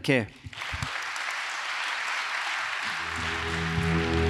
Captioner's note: audience applauds; emotive music